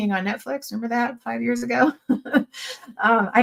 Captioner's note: laughs